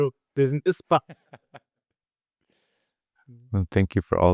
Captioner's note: laughter